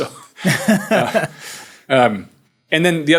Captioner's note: both laughing